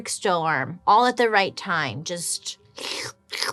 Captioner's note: slurps